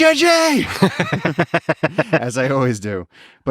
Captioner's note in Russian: Лекс смеётся